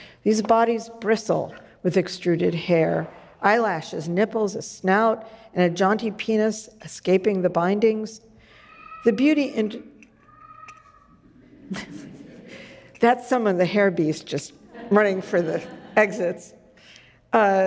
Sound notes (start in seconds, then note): 8.5 child yelling; 12.9 audience laughs